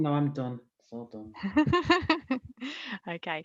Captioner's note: laughing